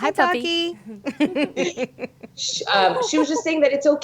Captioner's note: laughing